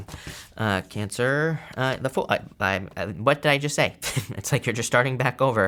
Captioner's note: chuckles